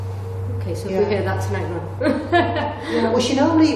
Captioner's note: laughs